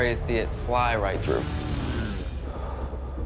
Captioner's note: exhales